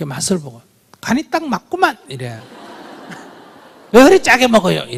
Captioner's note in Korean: 청중 웃음